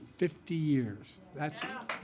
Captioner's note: applause